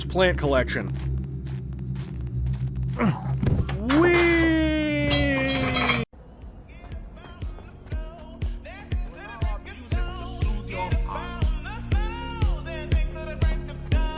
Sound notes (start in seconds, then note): 4.9 "weee" mixed with pinball sounds